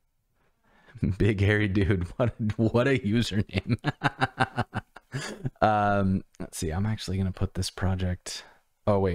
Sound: laughter

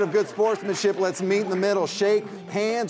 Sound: all applauding

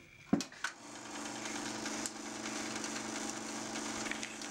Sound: sound of film projector

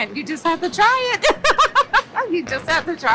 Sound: laughs

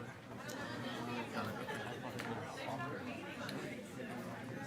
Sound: attendees chattering

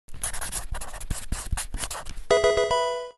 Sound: pen scribbling; pokemon game sound

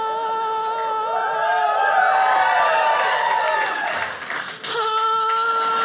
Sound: audience cheers

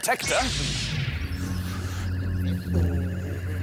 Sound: zap!

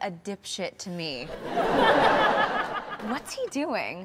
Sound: audience laughs

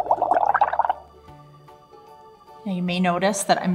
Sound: bubbling sounds

